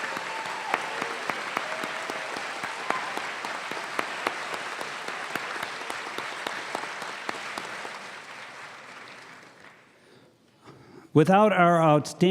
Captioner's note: cheers and applause